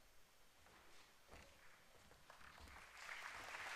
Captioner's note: applause